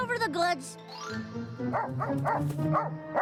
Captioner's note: barking